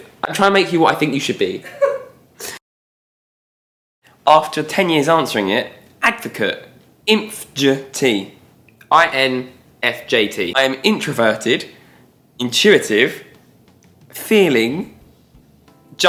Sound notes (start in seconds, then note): 1.6 laughter